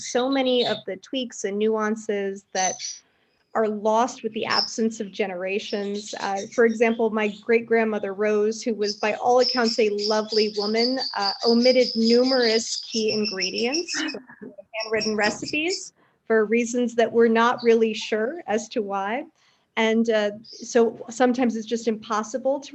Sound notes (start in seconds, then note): 13.9 laughs